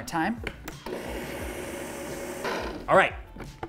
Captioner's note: blender whirring